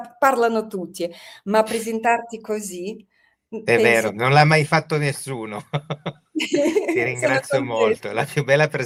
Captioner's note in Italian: risate